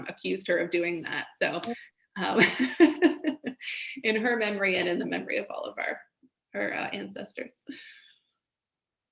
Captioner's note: laughs